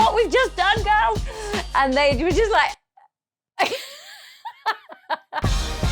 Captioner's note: laughs